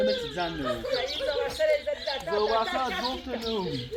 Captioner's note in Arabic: ضحك